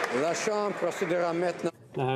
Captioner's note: some Applause